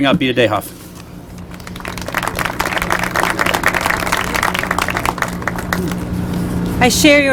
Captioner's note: applause